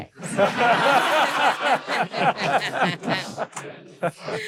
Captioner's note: audience laughing